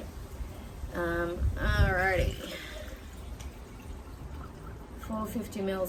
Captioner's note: water burbles as it fills